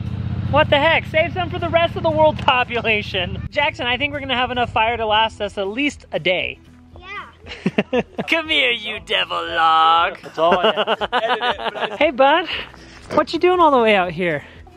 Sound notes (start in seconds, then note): 7.4 laughs; 10.1 laughs